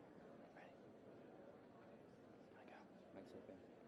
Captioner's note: whispering